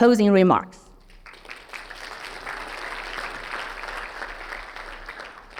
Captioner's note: audience clapping